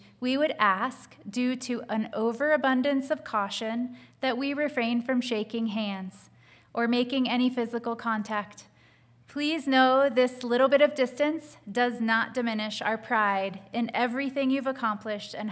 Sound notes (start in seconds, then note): none